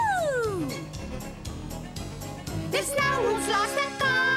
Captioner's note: owl hooting